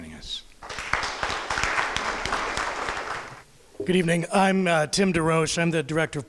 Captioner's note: crowd applause